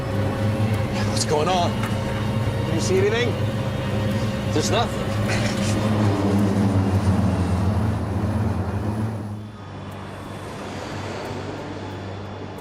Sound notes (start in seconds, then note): 0.2 intense music; 3.9 jet whooshing